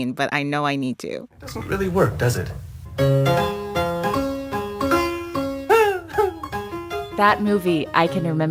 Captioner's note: soundbite of film, "amadeus"